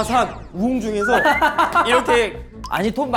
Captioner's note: tries to pass it off with laughter